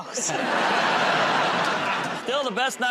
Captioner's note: laughter